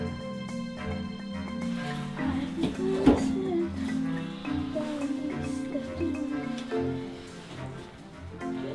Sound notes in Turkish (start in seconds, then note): 1.6 şarkı mırıldanır